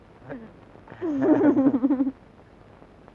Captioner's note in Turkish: İşveli gülüşmeler